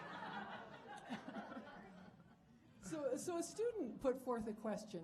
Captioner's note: audience laughing